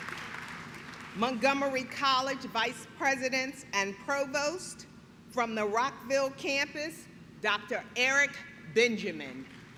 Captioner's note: applause